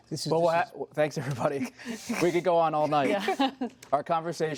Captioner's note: laughter